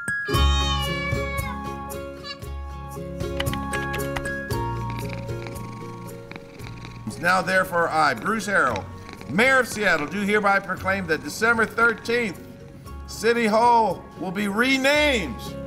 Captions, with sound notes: (cat meowing) (typewriter typing) (cat purring) Now, therefore I, Bruce Harrell, Mayor of Seattle, do hereby proclaim that December 13th City Hall will be renamed